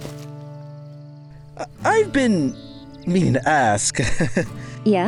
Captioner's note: chuckles